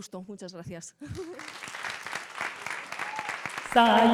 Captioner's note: applause